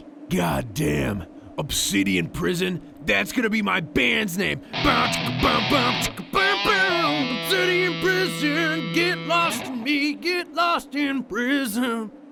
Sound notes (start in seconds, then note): 4.6 mimics a generic guitar riff; 8.2 singing